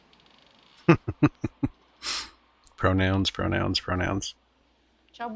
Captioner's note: chuckling